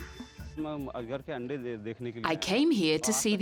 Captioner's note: speaking in foreign language